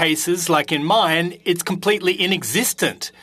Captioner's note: speaking French